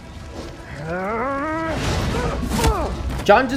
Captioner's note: grunts